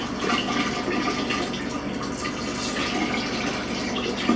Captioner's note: liquid splashes